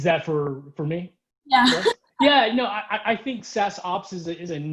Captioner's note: laughs